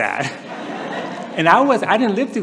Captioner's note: laughter